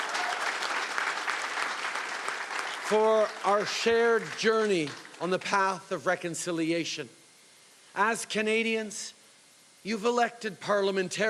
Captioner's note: cheering and Applause